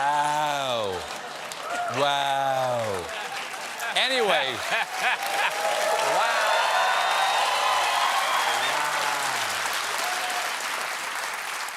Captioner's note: cheers and applause